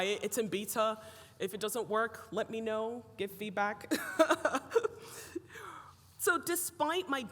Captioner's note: laughs